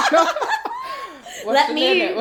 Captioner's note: laughter